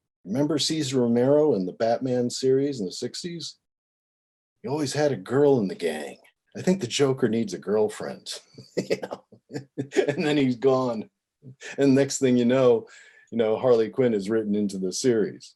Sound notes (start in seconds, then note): 9.5 laughing